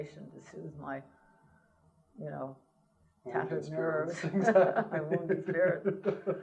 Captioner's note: laughter